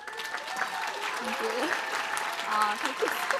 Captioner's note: applause